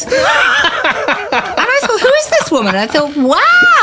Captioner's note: laughter